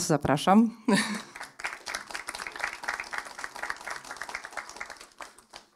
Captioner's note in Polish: oklaski